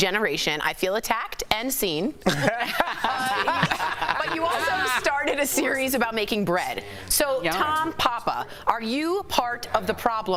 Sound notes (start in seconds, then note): 4.2 laughter